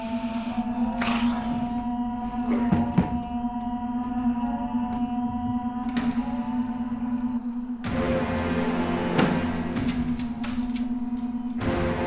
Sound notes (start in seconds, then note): 1.9 Jonathan thudding to floor; 4.5 Man in the Fields calling; 8.5 tense orchestral music